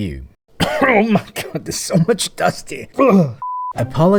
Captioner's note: cough